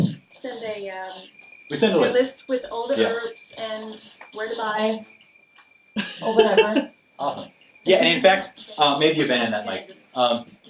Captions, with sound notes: send a-- - We'll send a list. - A list with all the herbs. - Yeah. - And where to buy. (laughs) - Awesome, yeah, and in fact, maybe you ban that mic.